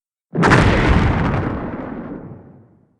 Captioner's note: explosion